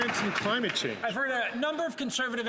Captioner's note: some Applause